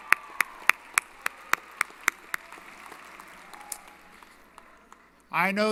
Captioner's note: applause & Cheering